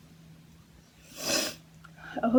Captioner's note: sniffle